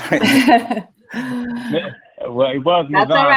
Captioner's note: laughing